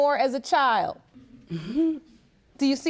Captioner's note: chuckles